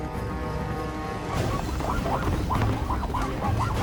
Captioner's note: zebras squeal